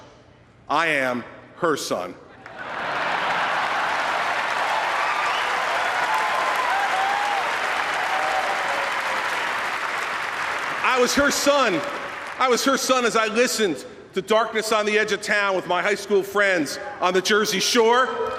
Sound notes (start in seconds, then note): 6.4 applause